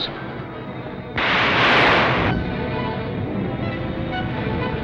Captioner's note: thunder crashing